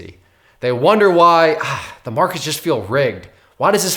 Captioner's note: sighs